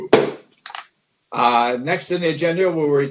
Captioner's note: gavel bangs